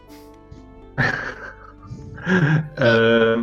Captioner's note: смеётся